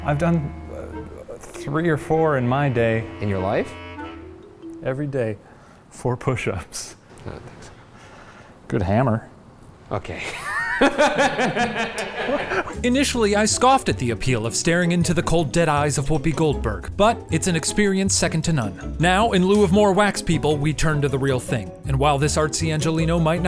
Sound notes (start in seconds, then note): 10.3 laughing